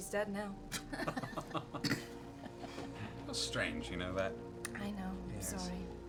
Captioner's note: laughs